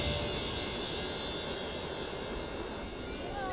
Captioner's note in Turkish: Müzik - Gerilim; Rüzgâr sesi